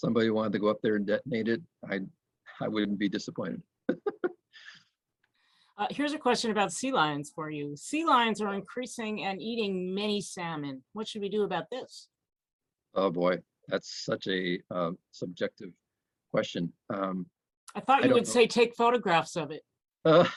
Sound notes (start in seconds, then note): 3.9 laughs